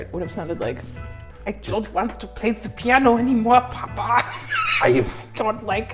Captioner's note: cracks up